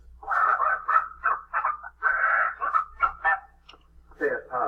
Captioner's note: squawking